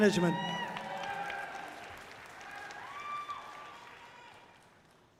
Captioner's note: audience cheering loudly